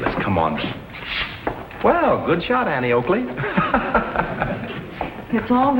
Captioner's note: laughs